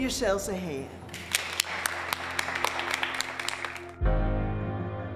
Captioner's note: audience applauding